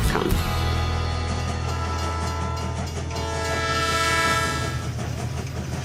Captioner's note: train whistle blowing